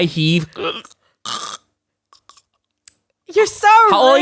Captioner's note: choking